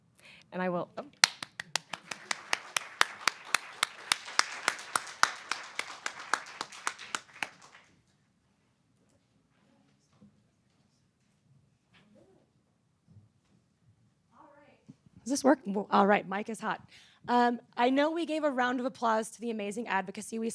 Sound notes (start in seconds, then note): 1.2 applause